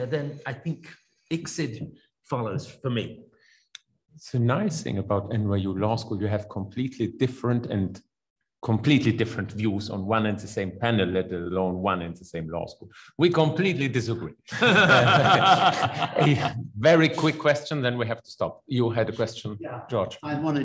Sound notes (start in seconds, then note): 14.5 laughs